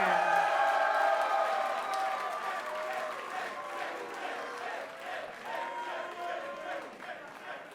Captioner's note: cheers & applause